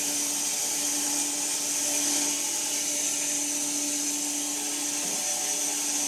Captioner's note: woodcutting machine whirring continues